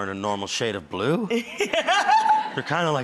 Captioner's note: laughs